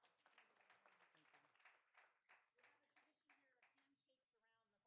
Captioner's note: applause